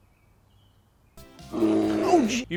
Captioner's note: bear noise